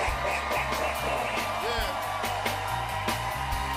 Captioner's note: laughs evilly; cheers and applause